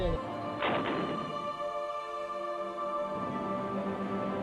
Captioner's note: rocket fires